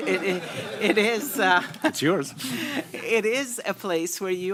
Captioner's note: laughter